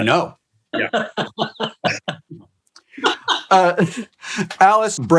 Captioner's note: group laughing